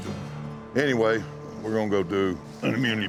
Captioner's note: grunts